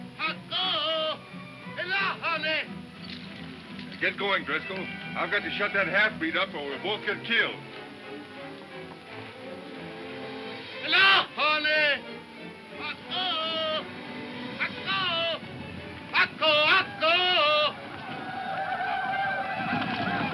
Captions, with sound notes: Get going, Driscoll. I've got to shut that half-breed up, or we'll both get killed. (soft dramatic music) (shouting in foreign language) (whooping)